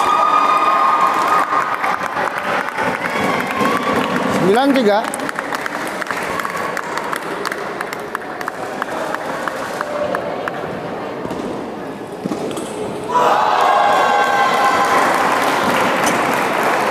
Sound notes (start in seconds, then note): 0.0 applause; 5.7 applause; 13.6 applause